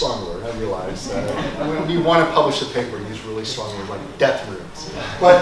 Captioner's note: laugh